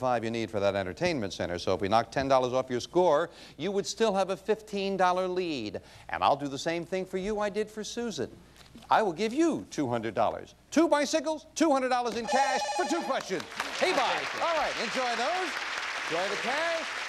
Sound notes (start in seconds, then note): 12.2 bell rings; 15.6 audience applauding